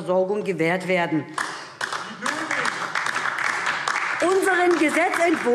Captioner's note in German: Beifall DIE LINKE